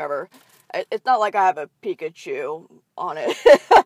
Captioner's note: laughs